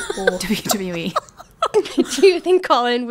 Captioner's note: laughing